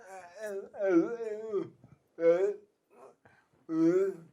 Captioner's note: murmurs